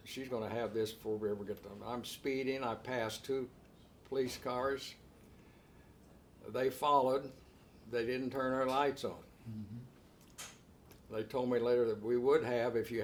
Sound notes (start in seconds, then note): none